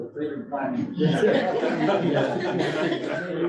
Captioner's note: laughter